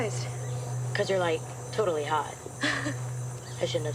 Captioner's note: chuckles